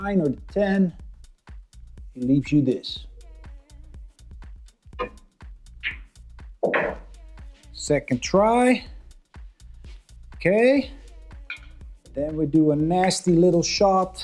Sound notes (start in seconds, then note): 3.8 upbeat music; 5.0 billiard balls clanging; 9.7 upbeat music